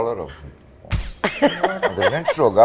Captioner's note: laughter